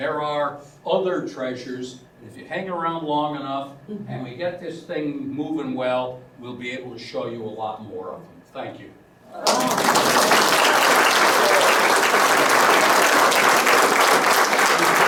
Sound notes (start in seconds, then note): 11.4 applause